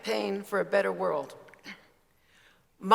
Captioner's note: clears throat